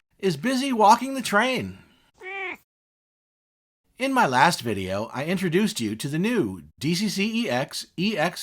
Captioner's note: meow!